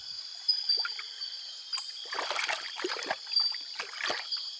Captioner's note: water splashing